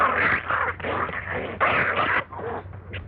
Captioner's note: cat fighting noises